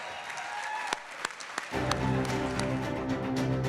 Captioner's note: audience cheering